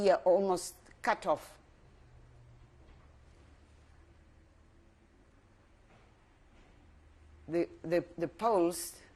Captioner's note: pauses for 6 seconds